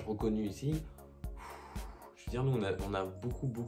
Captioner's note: desperate sigh